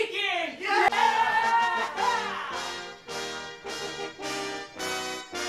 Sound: crowd cheers; upbeat music

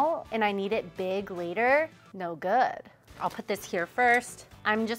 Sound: none

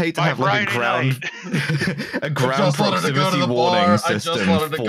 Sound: laughs

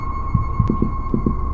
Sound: heartbeat suddenly beats faster

